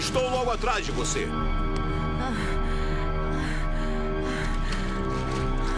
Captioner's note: gasping